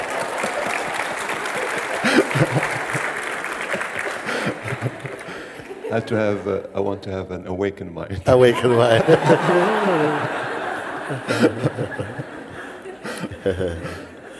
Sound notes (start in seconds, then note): 0.0 applause; 10.1 laughter